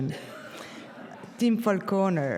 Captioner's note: audience laughs